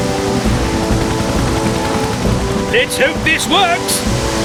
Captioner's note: water Gushing